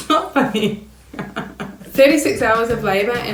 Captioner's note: laughing